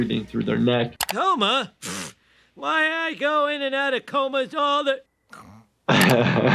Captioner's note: snores